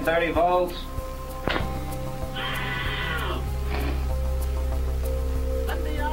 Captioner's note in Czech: intenzivní křik